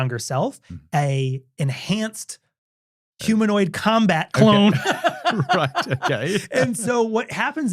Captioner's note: laughs